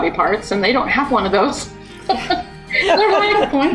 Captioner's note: laughs